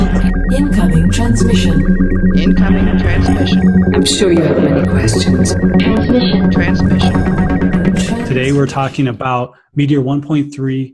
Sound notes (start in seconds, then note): 0.0 voiceover